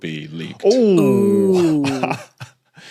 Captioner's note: wheezes